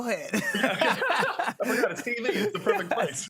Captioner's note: both laugh